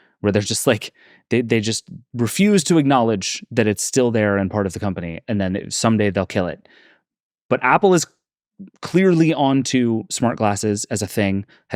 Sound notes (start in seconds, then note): none